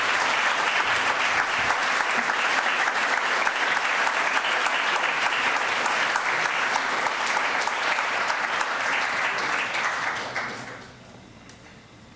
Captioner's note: applause